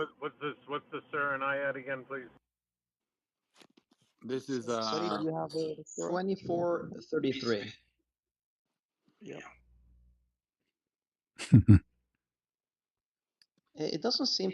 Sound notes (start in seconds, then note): 11.4 berdehem